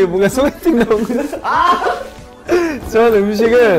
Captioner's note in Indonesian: tertawa